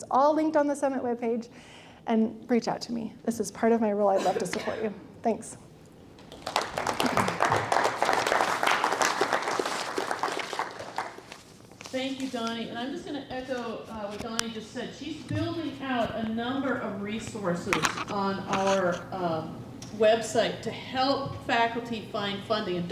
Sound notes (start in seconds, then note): 6.2 applause